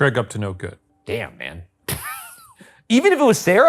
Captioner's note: laughing